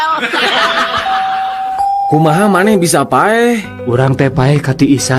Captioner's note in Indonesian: tertawa